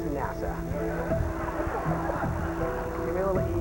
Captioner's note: laughter